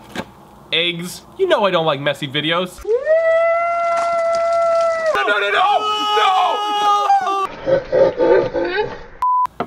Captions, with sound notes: You know I don't like messy videos. (screeching) Nunununo, no, no, no!